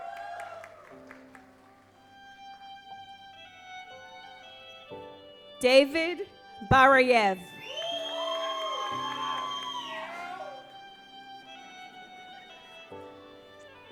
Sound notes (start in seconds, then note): 0.0 audience applauds; 7.4 audience applauds; 11.1 gentle music